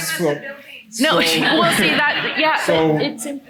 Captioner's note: attendees laughing